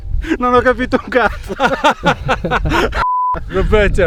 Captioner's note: laughing; speaks in foreign language